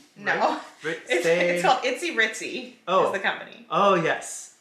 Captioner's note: laughs